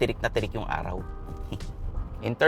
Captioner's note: chuckles